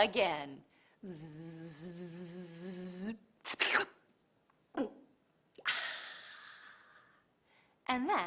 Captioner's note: buzzes like a bug, slurps, and swallows